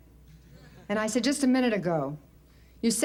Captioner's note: light laughter